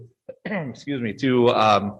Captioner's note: clears throat